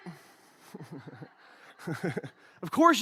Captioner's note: laughs